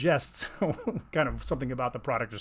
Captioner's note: chuckles